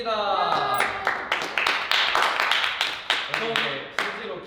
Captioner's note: applause